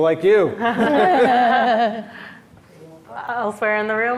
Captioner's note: panelists laughs